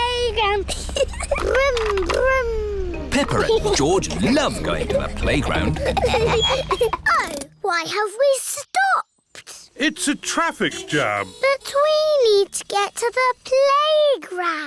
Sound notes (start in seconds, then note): 0.6 giggles; 9.8 horns toot